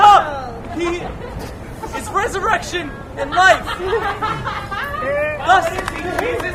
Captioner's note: laughter